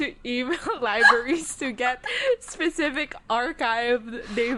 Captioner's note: both laughing